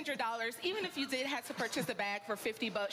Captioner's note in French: laughter